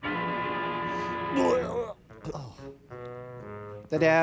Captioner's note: imitates the sound of vomiting sounds